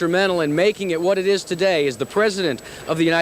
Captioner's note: voiceover